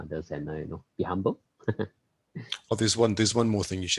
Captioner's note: laughs